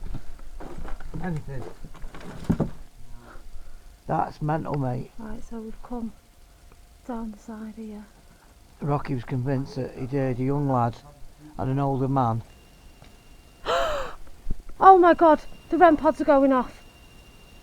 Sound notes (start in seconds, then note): 14.8 REM Pod beeping